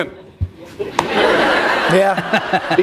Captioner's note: laughter